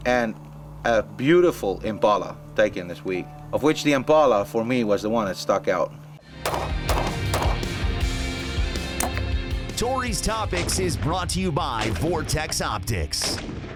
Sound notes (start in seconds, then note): 6.3 rock music; 6.4 pistol firing